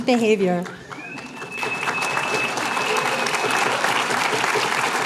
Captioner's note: applause